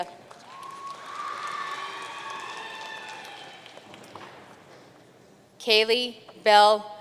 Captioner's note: audience cheering and applauding